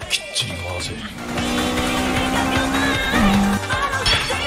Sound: 11k rpm kicks in

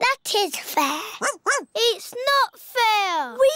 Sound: barks

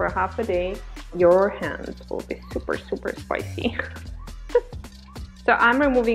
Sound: laughs

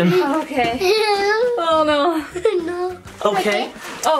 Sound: giggles

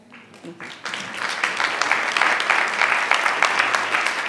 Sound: audience applauding

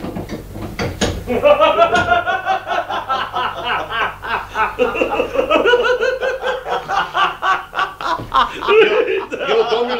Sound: everyone laughs heartily

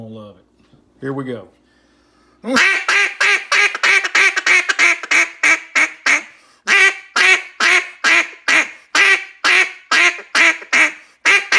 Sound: RNT Mondo Cutdown duck call quacks chatter and feed calls

